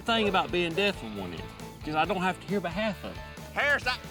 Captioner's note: none